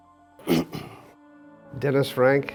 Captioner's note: clears throat